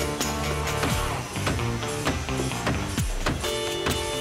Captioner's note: tap, Tap, Tap, Tap, Tap!